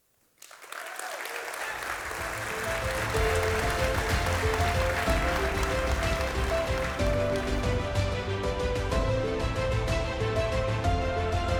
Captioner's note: audience Clapping